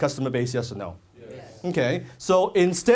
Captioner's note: audience says yes